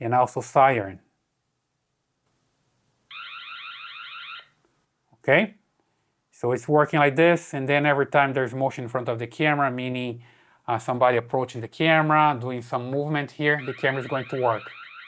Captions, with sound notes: And also siren. (alarm beeping) Okay, so it's working like this and then every time there's motion in front of the camera, meaning somebody approaching the camera, doing some movement here, the camera's going to work.